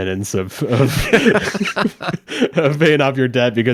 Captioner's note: hosts laughing